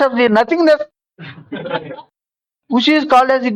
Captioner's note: laughs